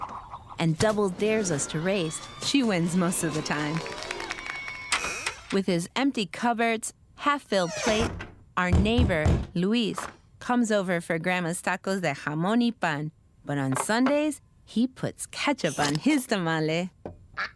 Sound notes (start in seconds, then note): 4.8 cheering; 7.6 opening doors; 8.6 knocking on door